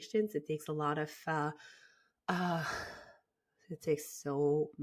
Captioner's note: sighs